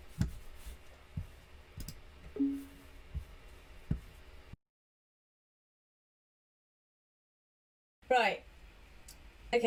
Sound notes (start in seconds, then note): 2.4 mouse click and computer bleep